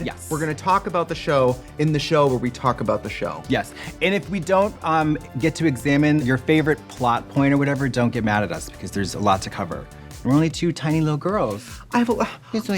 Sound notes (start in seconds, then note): none